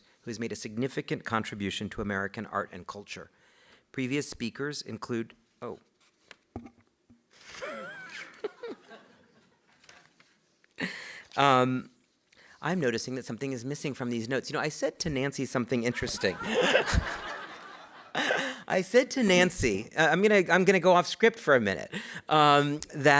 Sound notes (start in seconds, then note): 6.6 paper scratches; 7.4 chuckles; 9.0 group laughs; 16.0 audience laughing; 18.0 chuckling